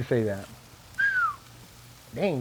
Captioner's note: quiet whistle; sizzling